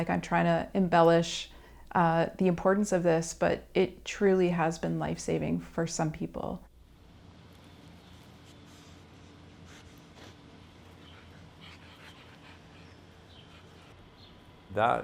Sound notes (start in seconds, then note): 12.5 birds chirping